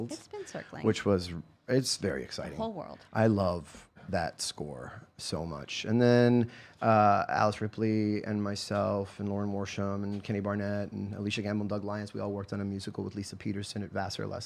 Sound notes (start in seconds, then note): none